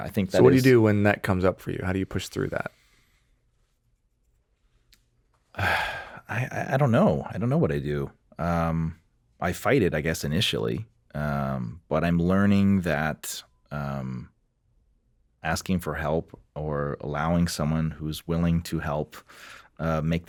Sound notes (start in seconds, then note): 5.5 Gaicomo sighs